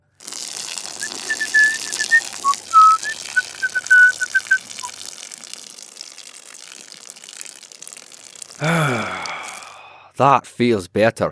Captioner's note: Tralnis hums a jaunty tune while urinating